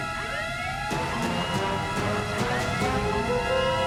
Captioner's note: alarm sounds